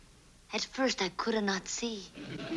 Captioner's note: with Italian accent